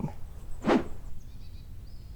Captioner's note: screen whooshing